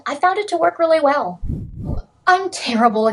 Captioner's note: swoosh swoosh